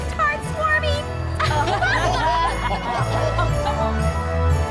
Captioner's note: laughter